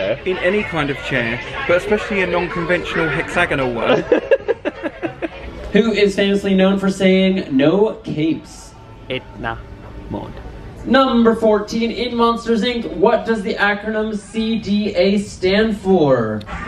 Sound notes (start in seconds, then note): 3.8 laughs